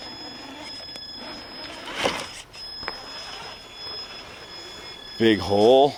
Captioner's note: engine roaring